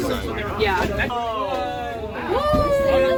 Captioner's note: crowd exclaims in amazement